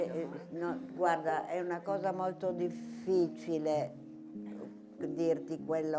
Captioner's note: speaking in foreign language